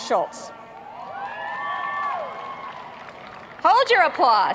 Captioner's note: applauding